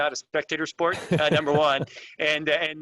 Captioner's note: laughs